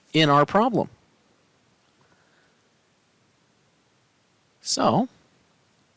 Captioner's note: no Speech Detected